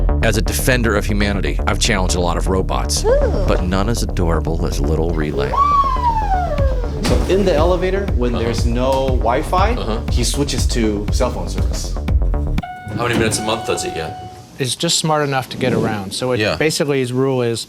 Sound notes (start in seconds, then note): 5.0 whirring